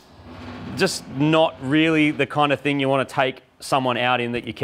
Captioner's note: car groaning